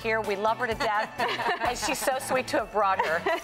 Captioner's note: laughs